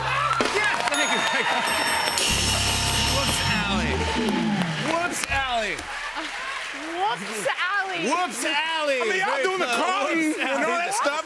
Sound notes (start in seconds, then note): 0.4 cheers and applause; 1.0 bell dings